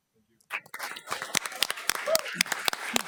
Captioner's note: audience clapping